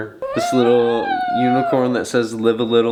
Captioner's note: coos